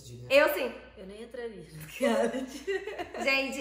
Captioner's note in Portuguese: risos